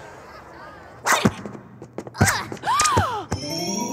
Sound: grunting

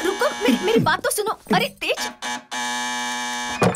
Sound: ringing doorbell

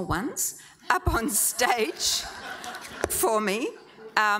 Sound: audience laughing

